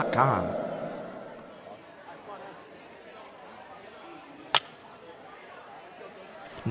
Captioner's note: indistinct chatter